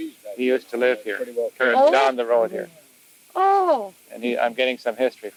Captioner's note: cassette audio